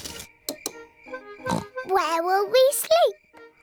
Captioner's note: oinks